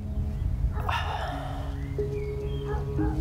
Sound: sighs

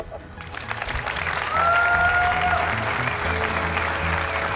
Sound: applause

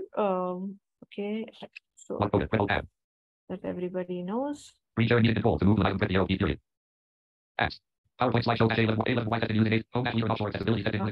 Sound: screen reader audio echoing

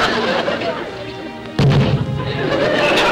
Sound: audience laughter; thump; audience laughter

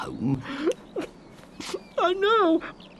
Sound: sobbing

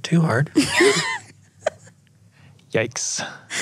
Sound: laughs

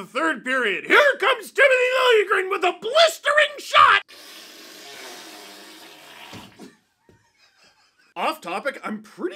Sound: fart noise; laughter

